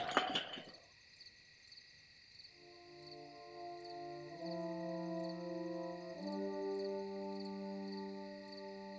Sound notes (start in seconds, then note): 1.4 cricket chirping